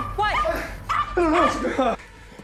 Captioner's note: dog barking